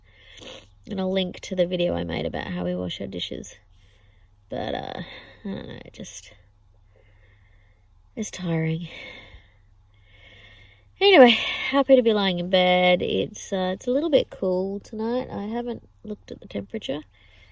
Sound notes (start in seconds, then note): 0.3 sniffs; 8.9 with a sigh